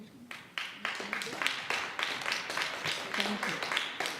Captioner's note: audience applauds